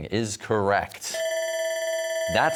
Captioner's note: bell ringing